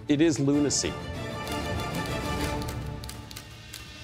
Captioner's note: typewriting